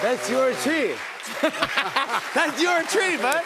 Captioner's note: laughter